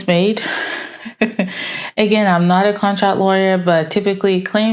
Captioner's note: laughs